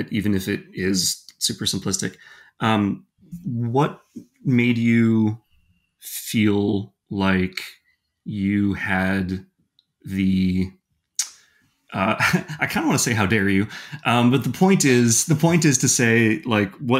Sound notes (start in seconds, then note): 12.0 chuckling